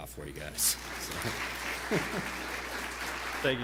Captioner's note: applause